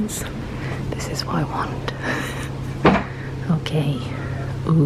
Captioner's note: chuckles